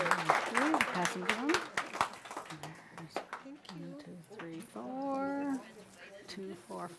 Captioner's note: audience applause